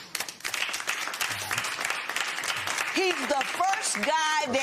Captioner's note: applause